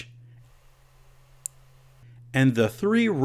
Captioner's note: switch click